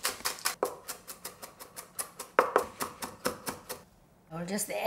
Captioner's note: knife tapping